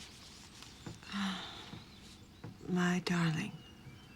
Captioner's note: sighs